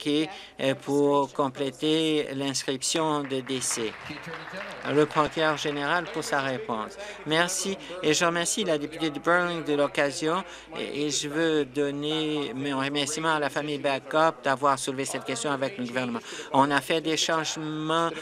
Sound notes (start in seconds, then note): 6.1 applause